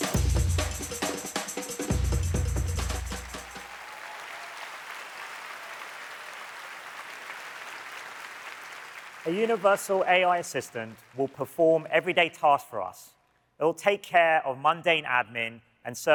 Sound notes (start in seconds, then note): 2.6 applause